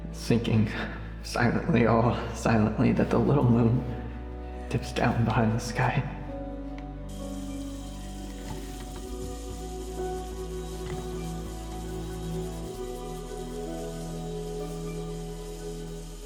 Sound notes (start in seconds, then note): 7.5 water spraying; 10.6 gentle sorrowful music